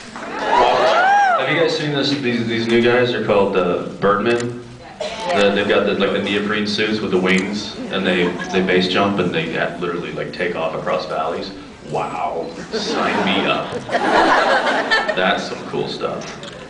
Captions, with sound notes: While flying a plane. Have you guys seen this -- [scattered cheers] these -- these new guys, they’re called uh, birdmen? [scattered yes’s] That they’ve got like the Really? neoprene suits with the wings? And they -- they base jump and they literally like take off across valleys? Wow. Sign me up. [scattered laughs] [laughs] That’s some cool stuff.